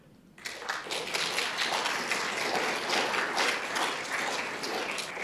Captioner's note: audience applauding